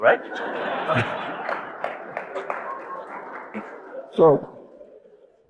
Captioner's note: audience laughing